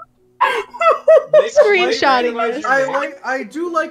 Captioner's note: cackling still; laughing; still cackling lmao